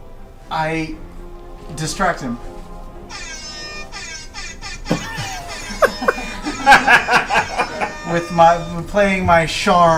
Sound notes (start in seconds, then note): 3.4 air horn blowing; 6.1 all laugh